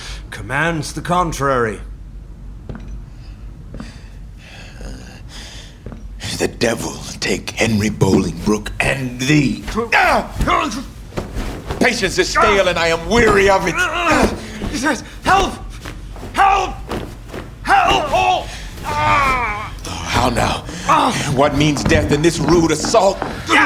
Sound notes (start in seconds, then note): 2.6 footsteps; 9.7 scuffle; 13.7 scuffle; 17.9 groaning; 21.4 footsteps rushing in